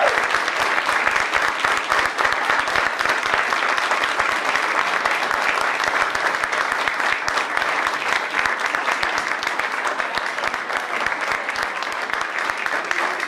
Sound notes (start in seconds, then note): 0.0 cheers and applause